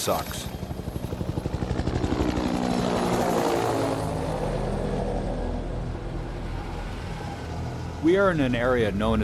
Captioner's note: sound of helicopter rotors